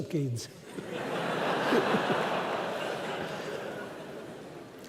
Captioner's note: laughter